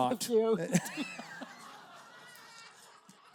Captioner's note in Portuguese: risos da plateia